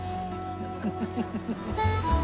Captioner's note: chuckles